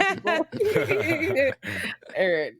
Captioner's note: laughing